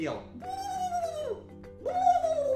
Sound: turkey gobble

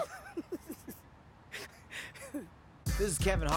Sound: laughter

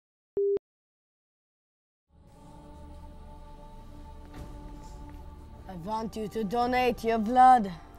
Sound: countdown beeps

